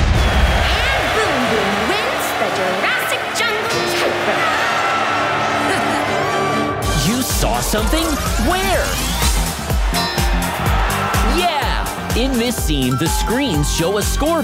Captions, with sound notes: And Boom Boom wins the Jurassic Jungle tightrope. [chuckles] You saw something? Where? Yeah! In this scene, the screens show a scoreboard